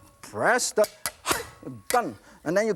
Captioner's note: yelps